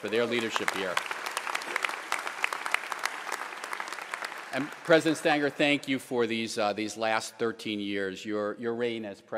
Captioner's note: applause